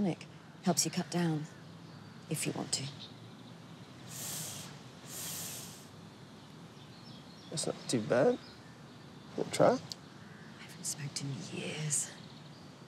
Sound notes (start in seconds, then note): 3.5 inhales